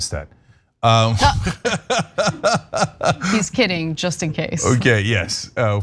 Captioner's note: laugh